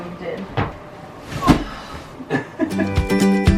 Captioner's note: groans; laughs; happy music